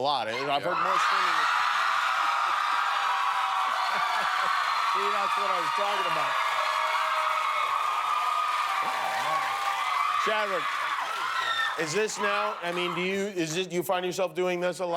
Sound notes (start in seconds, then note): 2.3 cheers and applause